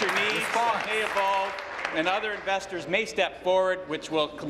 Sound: applause

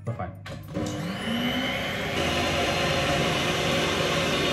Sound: mixer buzzing

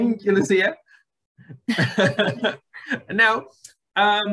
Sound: laughs

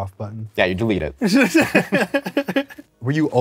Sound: both laugh

